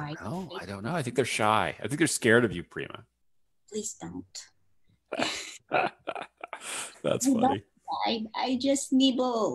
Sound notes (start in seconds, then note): 5.1 chuckles; 5.1 laughs